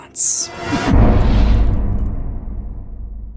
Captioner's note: impact